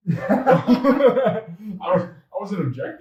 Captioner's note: both laugh out loud